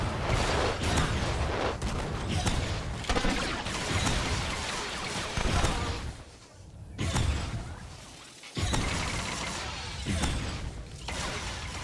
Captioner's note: gun firing